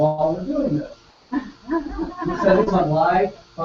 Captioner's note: laugh